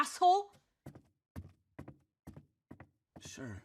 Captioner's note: feet stomping